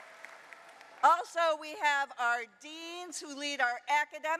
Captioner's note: applause